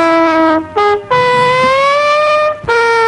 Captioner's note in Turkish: borazan sesi